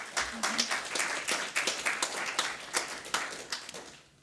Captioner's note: round of applause